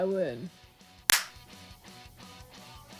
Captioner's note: confetti